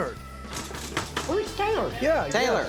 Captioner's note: rustling sounds offscreen